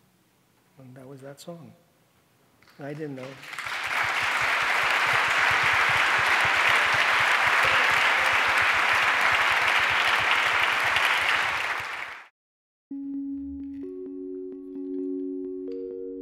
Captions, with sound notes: And that was that song. I didn't know. (audience applauding) (light music)